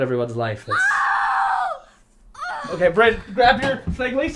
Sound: yelling

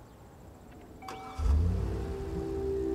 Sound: engine whirring; soft music

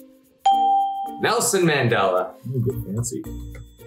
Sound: bell rings

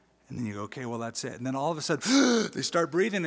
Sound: gasp

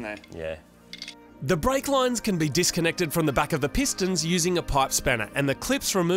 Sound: voiceover

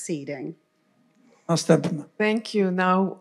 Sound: foreign language

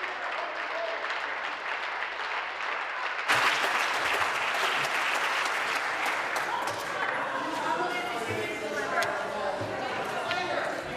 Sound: applause

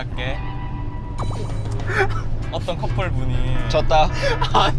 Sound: burst out laughing

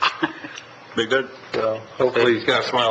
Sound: member laughing

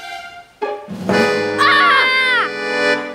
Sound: screaming

